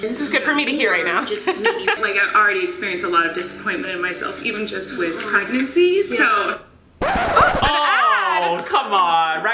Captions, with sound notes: - This is good for me to hear right now! (laughs) - Like I've already experienced a lot of disappointment in myself, even just with pregnancy. So- (record scratching) - Oh an ad! - Oh, come on!